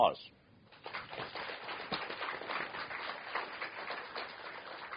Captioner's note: applause